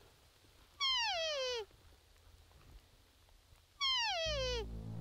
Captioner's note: animal call